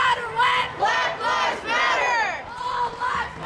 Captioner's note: crowd